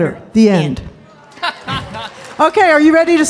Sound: laughing

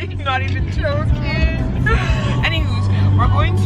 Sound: laughs

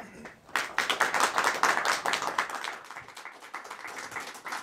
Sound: audience applauding

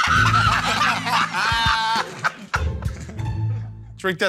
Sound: laughter

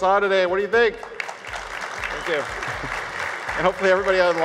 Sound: clapping

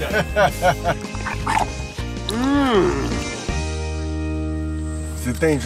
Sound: crunching

